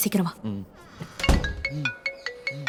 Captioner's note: mobile ringing